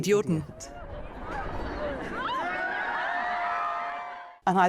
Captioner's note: crowd cheering